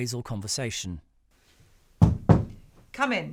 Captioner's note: knock on door